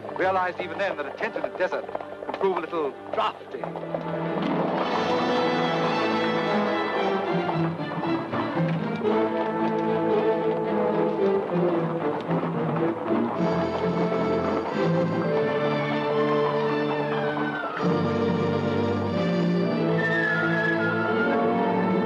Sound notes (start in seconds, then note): 4.2 dramatic music; 4.2 hooves clopping